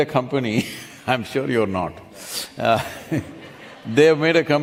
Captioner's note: laughs; few laugh